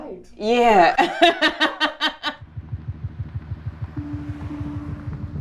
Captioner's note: laughs